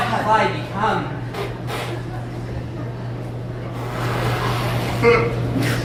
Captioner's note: more fart noises